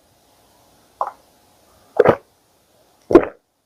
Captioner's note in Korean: 꿀꺽꿀꺽